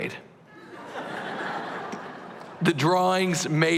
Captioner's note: laughter